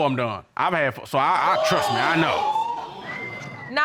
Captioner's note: audience exclaiming wildly